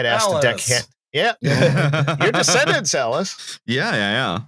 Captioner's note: laughter